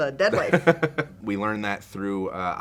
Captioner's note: laughs